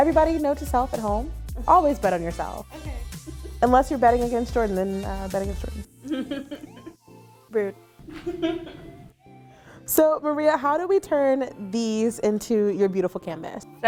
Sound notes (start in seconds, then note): 2.8 upbeat electronic music; 6.0 laughing; 8.0 laughing